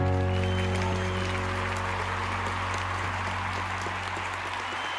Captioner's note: audience applauding